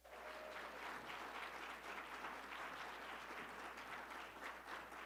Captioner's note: audience clapping